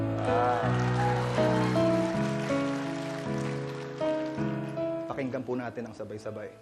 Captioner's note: crowd cheering, applauding